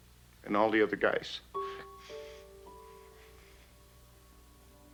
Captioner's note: crying